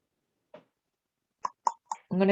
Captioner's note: clicking tongue